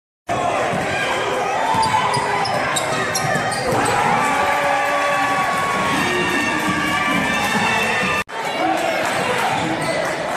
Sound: applause

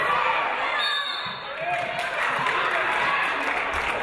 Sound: referee blows whistle; audience applauding

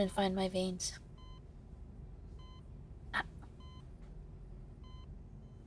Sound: heart monitor beeping

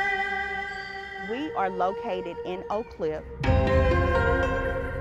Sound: bells ringing

